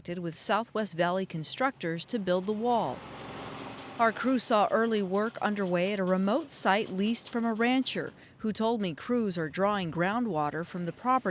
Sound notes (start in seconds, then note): 2.0 engine roaring